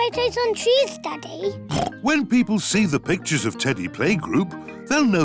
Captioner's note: oinks